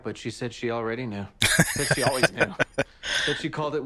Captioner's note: laughing